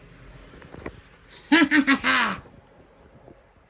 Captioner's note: Caprice laughs